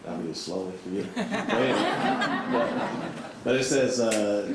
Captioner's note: all laughs